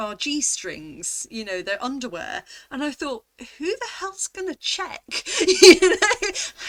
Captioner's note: laughing